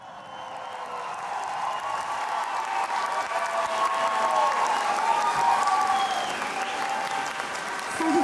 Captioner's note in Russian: аплодисменты